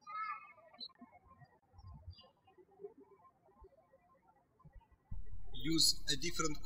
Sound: birds chirping

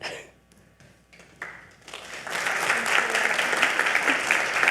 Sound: audience applaud

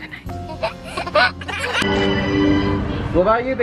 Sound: laughs

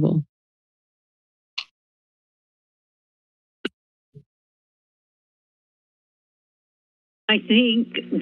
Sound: silence

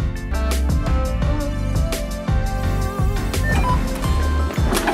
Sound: beep noise

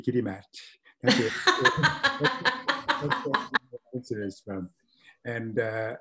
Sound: laughs

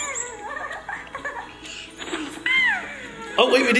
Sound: baby laughing; squeaking

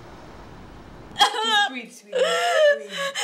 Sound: Sara sobs

